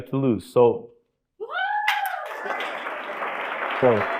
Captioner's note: crowd cheering